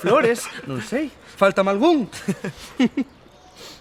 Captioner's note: laugh